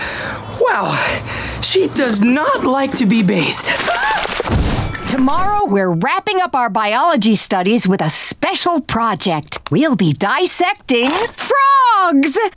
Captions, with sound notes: Wow, she does not like to be bathed. [yelping] Tomorrow we're wrapping up our biology studies with a special project. We'll be dissecting frogs.